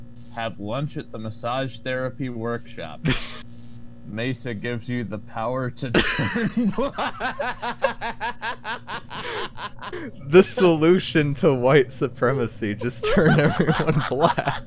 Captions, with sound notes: "Have lunch at the massage therapy workshop". - (laughs) - "Mesa gives you the power to turn black". (laughter) The solution to white supremacy: just turn everyone black!